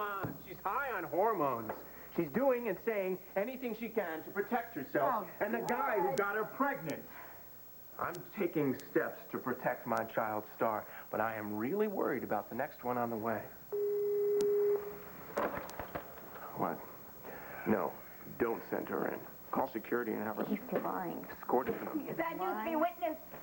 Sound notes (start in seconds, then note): 15.3 telephone buzzes